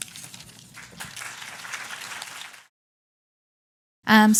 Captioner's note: applause